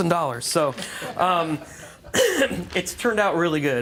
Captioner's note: laughter